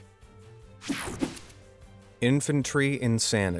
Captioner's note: air whooshing